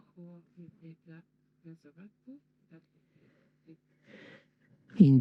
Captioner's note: inhale